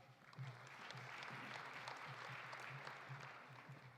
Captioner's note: audience applauding